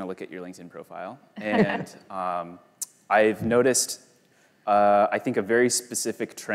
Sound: both laugh

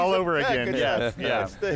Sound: laughter

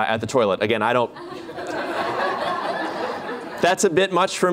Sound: laughter

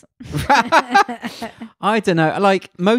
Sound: laughs loudly

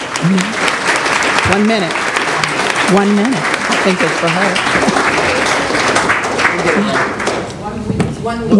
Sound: applause

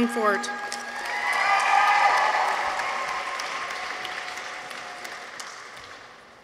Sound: people cheer; audience applauds

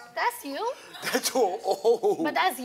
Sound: laughing

